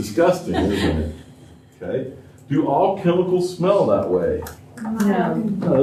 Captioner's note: laughter